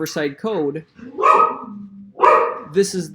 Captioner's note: dog barks